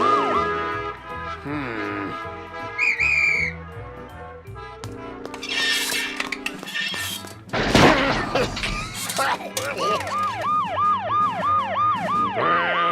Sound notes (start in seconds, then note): 2.7 whistle blows furiously; 7.9 coughs; 9.6 sirens wail; 11.3 grumbles